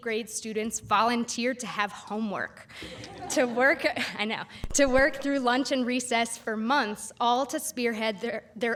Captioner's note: laughter